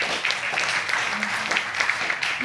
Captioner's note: audience applauding